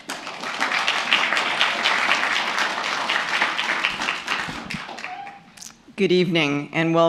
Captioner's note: applause